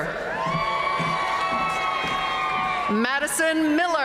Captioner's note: audience cheering and applauding